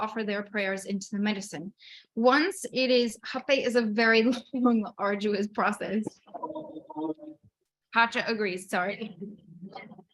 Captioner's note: laughing at interruption